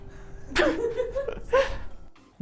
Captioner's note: cracking up